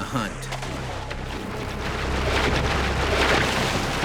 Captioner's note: splashing